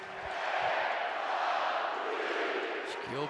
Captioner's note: crowd chanting